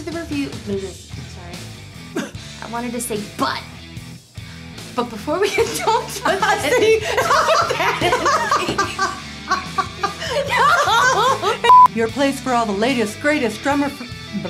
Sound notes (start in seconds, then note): 5.4 laughs; 7.3 both laugh